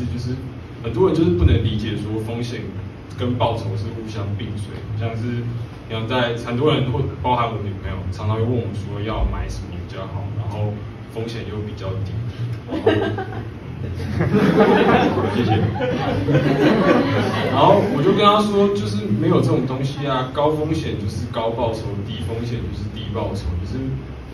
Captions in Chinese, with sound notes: 很多人就是不能理解 風險跟報酬是互相並隨的 很多人 包含我女朋友 常常會問我說 要買甚麼比較好 然後風險又比較低 (unexpected laughters) 我就跟她說 就是沒有這種東西啊 高風險就是高報酬 低風險就是低報酬